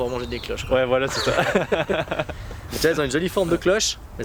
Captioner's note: laughs